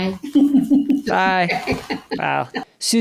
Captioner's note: laughs